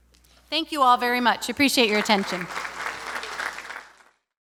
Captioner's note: applause